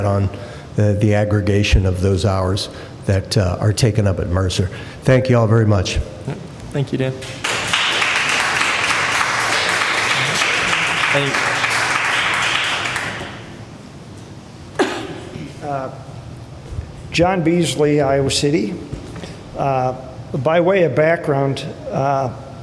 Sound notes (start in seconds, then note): 12.6 applause